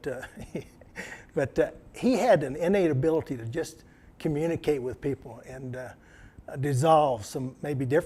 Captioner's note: laughter